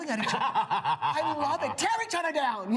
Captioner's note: laughs